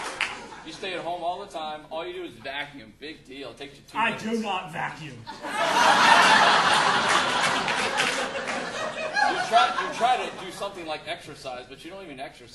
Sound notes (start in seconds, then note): 5.2 audience laughing